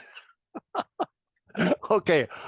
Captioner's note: laugh